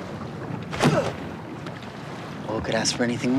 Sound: grunts

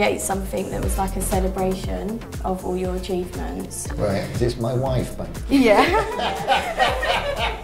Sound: laughter

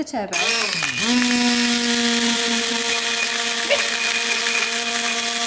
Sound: blender whirs quickly

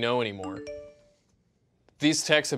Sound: phone alert

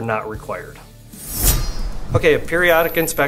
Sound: blade slicing

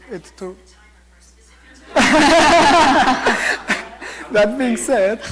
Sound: audience laughter

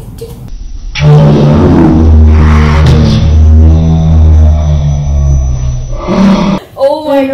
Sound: distorted audio

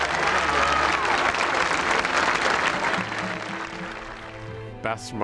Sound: cheering

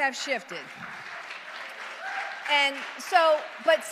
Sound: audience applauds

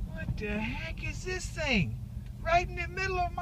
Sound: blinker sounds

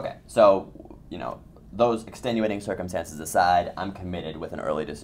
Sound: voiceover

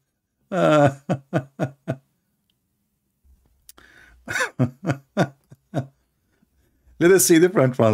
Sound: Ketawa

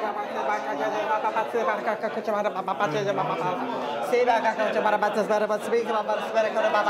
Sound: sound - lots of mumbling voices

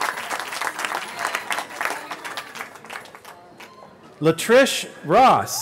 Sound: cheering

